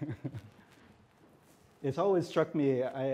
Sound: laughs

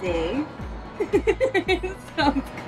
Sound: laughter

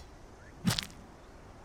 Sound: smack

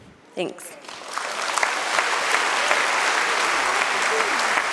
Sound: audience clapping

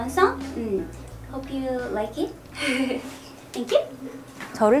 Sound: laughs

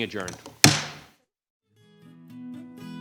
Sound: gavel pounds; gentle music

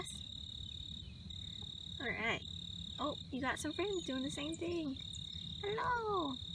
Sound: crickets

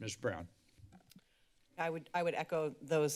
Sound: microphone thump

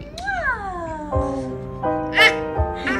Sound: lips smacking; gentle piano music

